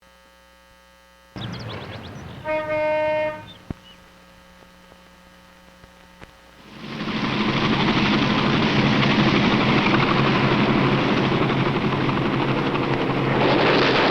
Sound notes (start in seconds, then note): 1.4 car horn; 6.4 helicopter blades whirring; 13.9 guns firing